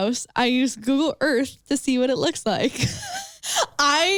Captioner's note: laughs